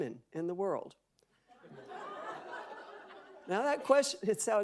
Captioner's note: audience laughing